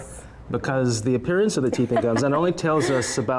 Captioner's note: laughter